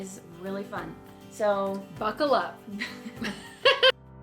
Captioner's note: laughing